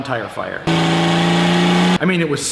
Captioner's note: engine revs